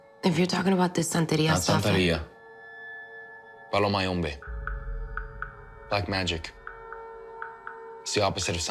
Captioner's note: spanish